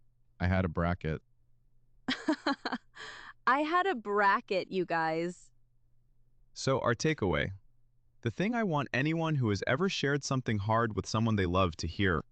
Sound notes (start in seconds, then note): 2.2 laughs hard